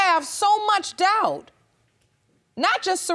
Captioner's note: none